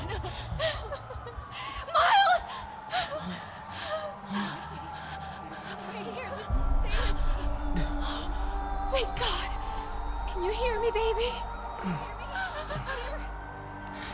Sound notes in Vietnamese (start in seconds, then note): 7.0 Thở dốc